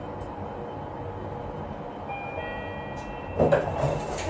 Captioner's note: chime